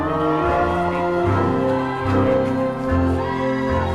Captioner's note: crowd cheering